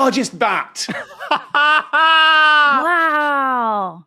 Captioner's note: laughs excitedly